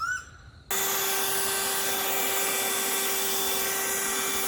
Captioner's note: leaf blower whirring